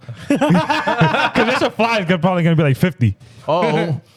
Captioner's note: laughing